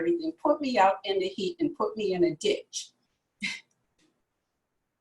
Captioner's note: laughs